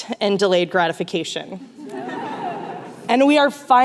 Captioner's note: laughter